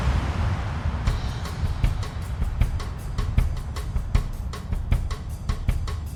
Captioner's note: plane passing